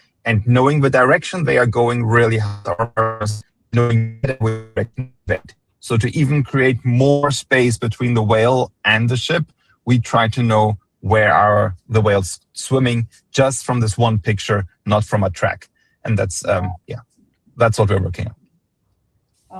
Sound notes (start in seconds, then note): 2.2 audio interference